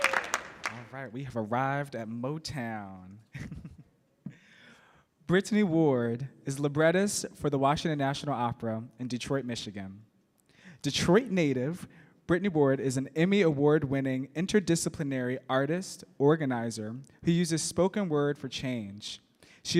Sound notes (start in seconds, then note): 3.3 laughs